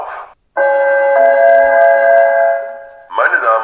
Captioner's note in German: Gong